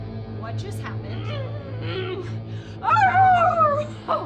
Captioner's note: Julia howls